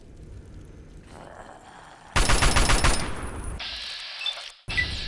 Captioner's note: ferocious growling, followed by gunfire